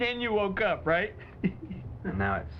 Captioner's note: chuckles